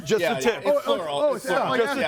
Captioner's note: group chattering